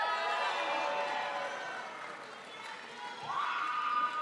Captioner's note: crowd applauds